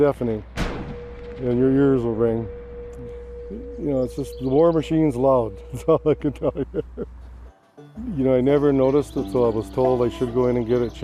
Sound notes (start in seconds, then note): 0.5 explosion booms; 5.7 laughs